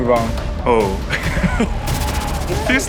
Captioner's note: laughs